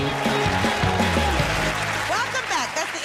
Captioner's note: cheers and applause